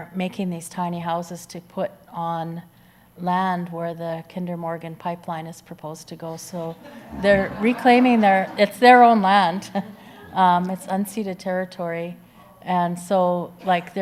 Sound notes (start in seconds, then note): 6.8 audience laughs